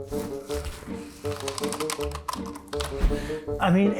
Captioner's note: keyboard clicking